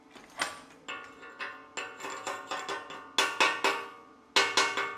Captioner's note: metal clanking